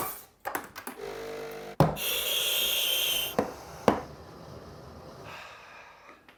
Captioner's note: coffee machine grinding